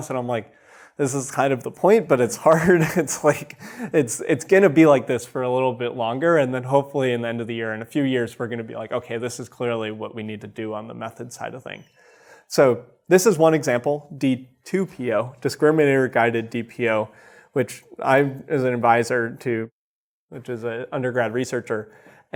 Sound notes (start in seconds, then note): 2.5 chuckles